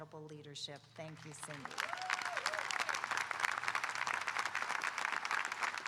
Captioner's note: audience applauding